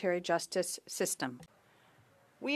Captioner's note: speaking French